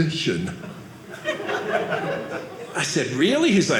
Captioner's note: audience laughing